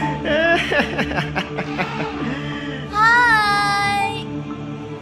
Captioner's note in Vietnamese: Tiếng cười